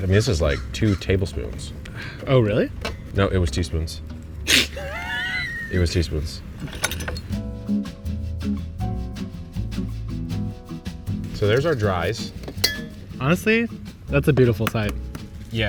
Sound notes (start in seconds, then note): 4.4 laughing; 7.5 gentle string music